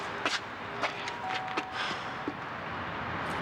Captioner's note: doorbell rings